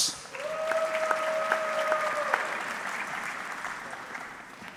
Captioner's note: audience clapping